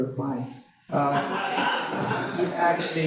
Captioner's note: laugher